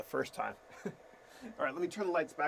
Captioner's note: chuckles